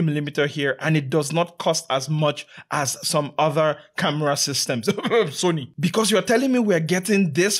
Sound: cough

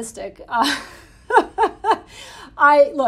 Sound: Jennifer laughing

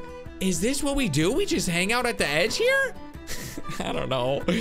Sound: laughs

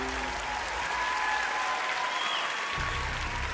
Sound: cheering; clapping

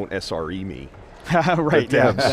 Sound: laughing

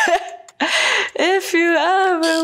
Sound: chuckles

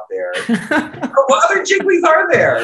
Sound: laughter

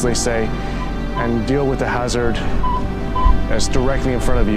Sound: metal detector beeping

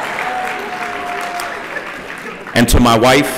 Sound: applause

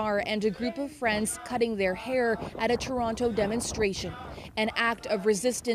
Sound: chanting

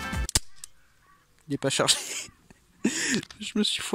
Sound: doin the wheeze

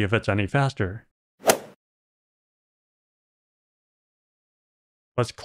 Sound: golf ball hit sound

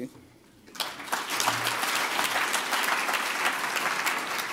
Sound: applause

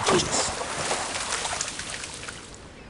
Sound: splash

